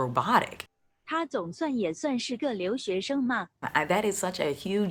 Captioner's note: speaking in foreign language